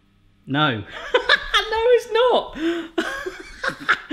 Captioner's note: laughing